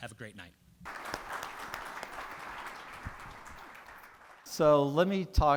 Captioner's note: people applauding